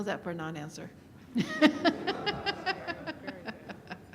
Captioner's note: laughter